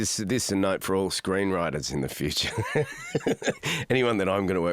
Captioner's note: laughs